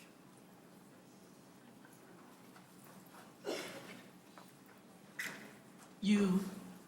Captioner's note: silence